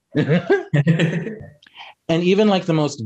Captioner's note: Bretman and Raffy laugh